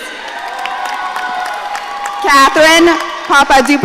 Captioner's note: audience cheering